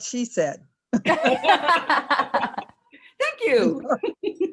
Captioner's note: laughter